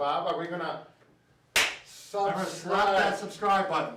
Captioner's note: hands clap